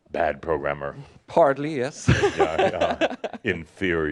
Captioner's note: he chuckles